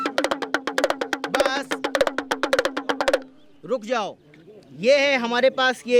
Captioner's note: non-english speech